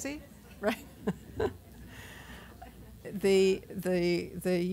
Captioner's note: laughter